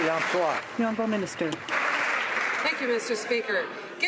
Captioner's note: some Applause